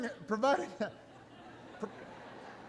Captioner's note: laughter